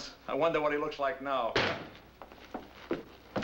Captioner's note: door slamming